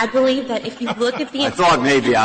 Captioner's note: laughter